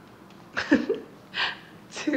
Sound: laughs

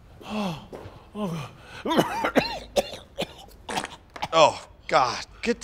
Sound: gagging

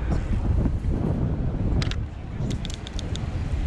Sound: gears clicking; wind gushing; button clicking

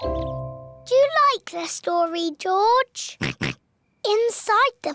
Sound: oinks

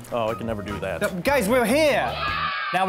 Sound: cheers

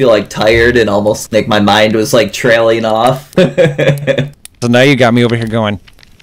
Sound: laughs

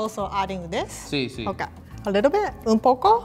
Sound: speaking in foreign language

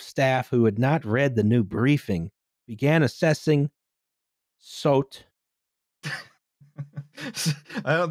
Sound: laughter

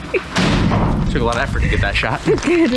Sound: trash thuds

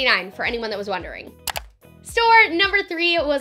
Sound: click

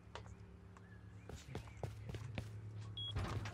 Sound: footsteps

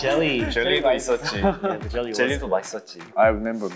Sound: speaking Korean

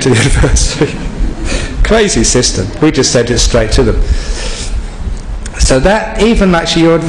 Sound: laughs

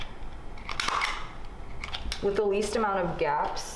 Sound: stapler clicks

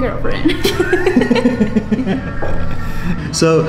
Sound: laughing

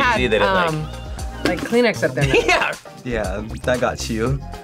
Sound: laughs

